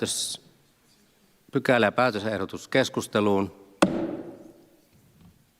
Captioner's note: Nuijan kopautus